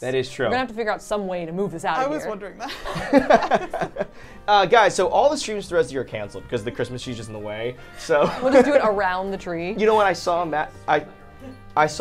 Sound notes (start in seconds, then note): 2.6 all laughing